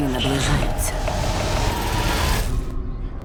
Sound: loud whooshing

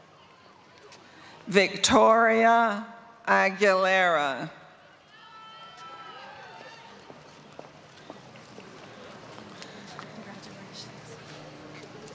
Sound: applause

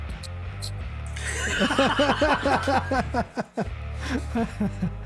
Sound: all laughing

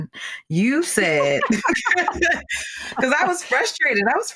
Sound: laughing

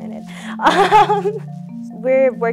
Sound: laughs

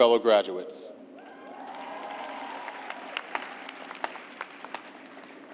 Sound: cheers and applause

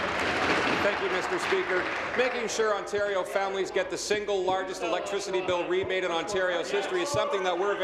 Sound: applause

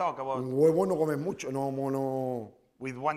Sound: speaking spanish

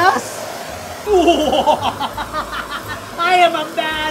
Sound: laughing

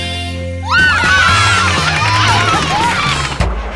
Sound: cheering

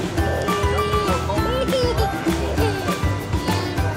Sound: giggling

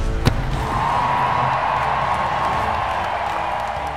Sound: crowd cheering

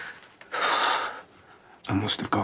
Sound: Aaron sighs

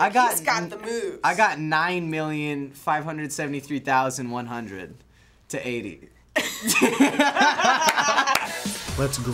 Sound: both laugh

